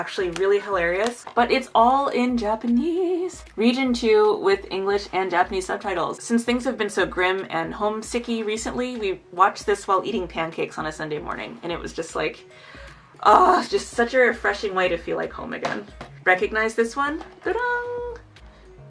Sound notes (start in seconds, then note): 12.5 inhales